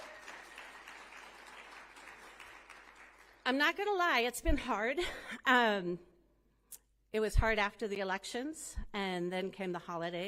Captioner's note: applause